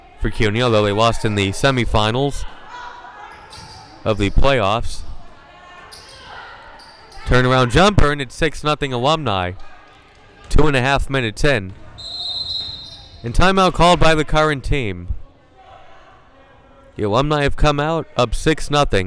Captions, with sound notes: for CUNY, they lost in the semifinals of the playoffs. Turnaround jump, it's 6-0 Alumni, 2:30 minutes in. (whistle blowing) And timeout called by the current team. The Alumni have come out up 6-0.